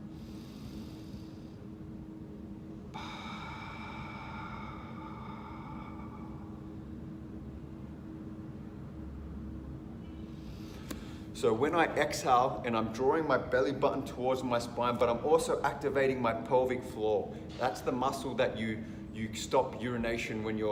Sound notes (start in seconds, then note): 0.2 inhaling; 2.9 exhaling